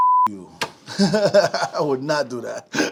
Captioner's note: laughing